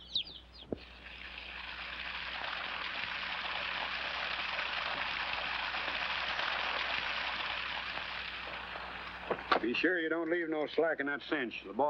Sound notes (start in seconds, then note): 0.7 water running